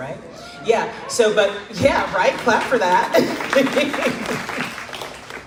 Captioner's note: crowd laughs